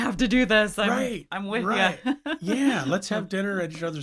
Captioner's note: laughs